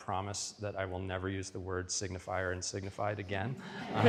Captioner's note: audience laughs